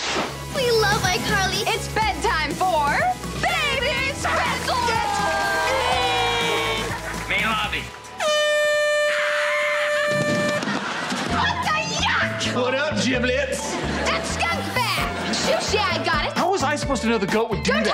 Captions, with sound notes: We love iCarly. It's bedtime for... Baby Spencer. That's me! Main lobby. [horn blowing] [screaming, horn blowing] What the yuck?! What up giblets? That skunkbag! Sushi, I got it. How was I supposed to know the goat would do that?